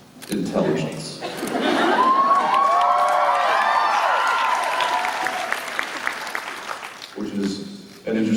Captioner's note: applause